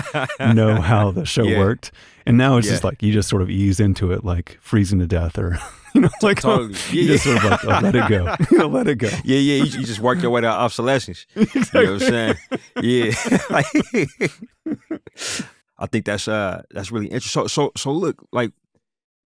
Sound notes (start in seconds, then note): 14.6 laughter